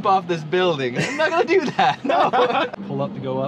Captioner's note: laughs